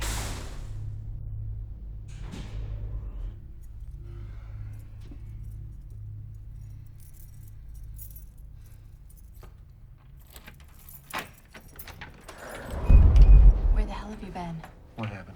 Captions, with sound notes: (elevator door rattles) (keys jangling) (door latch clicks) (door whooshing) - Where the hell have you been?